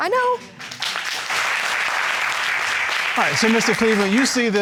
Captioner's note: applauding